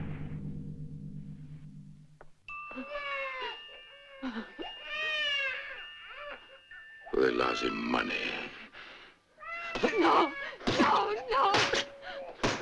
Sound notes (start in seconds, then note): 2.5 watch plays tune, baby crying